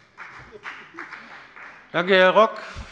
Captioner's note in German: Beifall bei der FDP